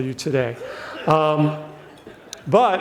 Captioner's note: audience laughs